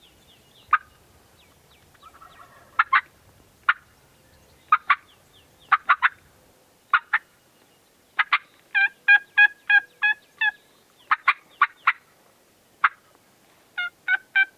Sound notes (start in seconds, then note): 2.0 distant turkey gobbling; 3.6 turkey call